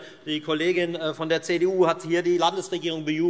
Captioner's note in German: none